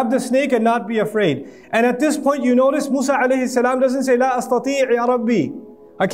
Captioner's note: Arabic